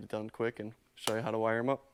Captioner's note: palm slapping